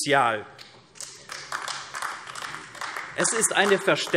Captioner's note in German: Beifall AfD